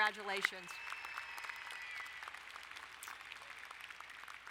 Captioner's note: all applauding